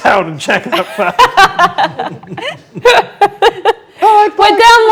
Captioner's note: group laughs; laughing drowns out speaker